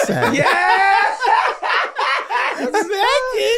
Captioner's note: group laughing